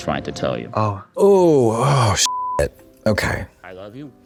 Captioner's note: beep